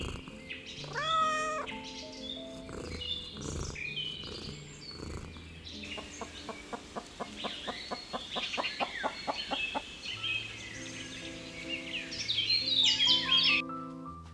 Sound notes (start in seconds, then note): 0.8 meows; 6.0 chickens cluck & rustle dried plants